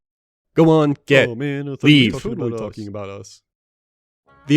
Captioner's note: sad grumbling voices from games